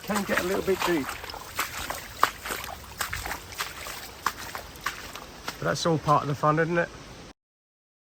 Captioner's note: splash